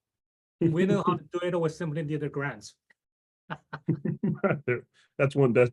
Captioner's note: laughs